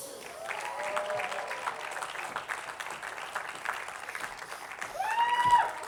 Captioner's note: attendees applauding